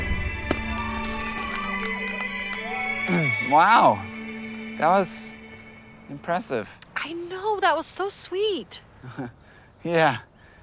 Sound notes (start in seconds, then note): 0.0 fireworks explode; 0.4 cheering; 3.1 clears throat; 9.0 chuckles